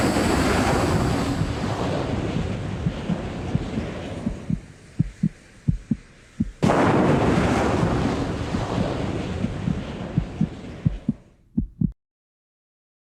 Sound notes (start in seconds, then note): 0.0 rocket exploding; 3.9 heart beating; 6.5 rocket exploding; 11.5 heart beating